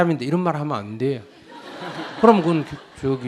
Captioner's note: audience laughs